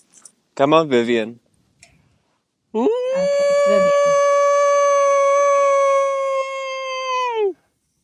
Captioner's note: Howling to Vivian